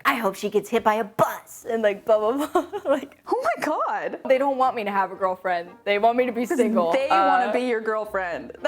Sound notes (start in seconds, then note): 3.0 laughing